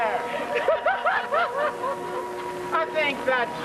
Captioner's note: laughter